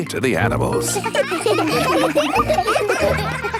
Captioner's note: children laughing